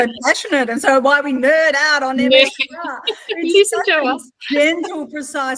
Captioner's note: laughing